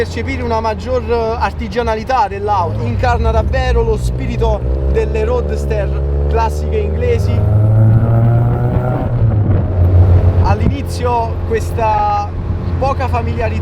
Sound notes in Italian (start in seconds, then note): 7.6 sound in accelerazione